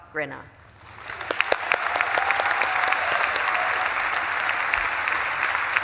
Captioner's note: audience claps and cheers